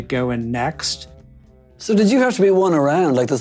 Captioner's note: soundbite of archived recording